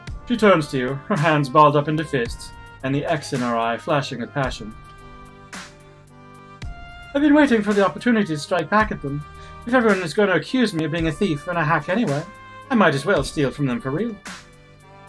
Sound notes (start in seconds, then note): none